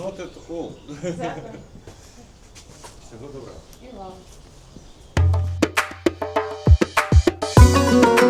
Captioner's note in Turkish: kahkaha